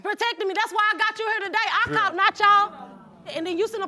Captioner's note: audience murmuring